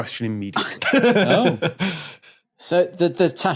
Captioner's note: chuckles gutturally